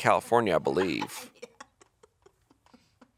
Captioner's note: chuckling